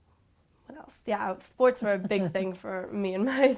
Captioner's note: chuckles